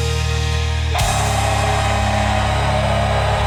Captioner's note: cheering